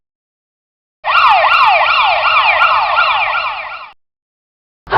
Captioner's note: ambulance Siren